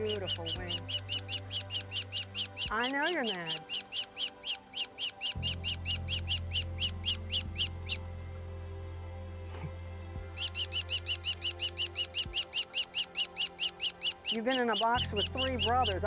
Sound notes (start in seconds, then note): 3.3 chirping; 6.3 chirping; 11.9 chirping